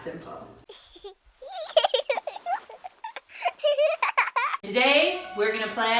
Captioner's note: child laughing